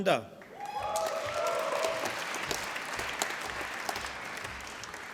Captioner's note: applause